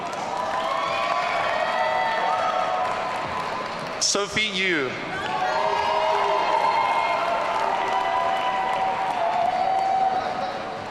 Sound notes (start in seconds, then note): 0.1 audience cheering; 5.1 audience cheering